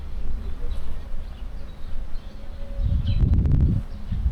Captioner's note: wind blowing